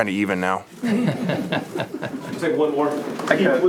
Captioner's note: audience laughs